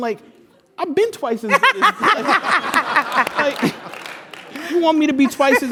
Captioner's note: laugh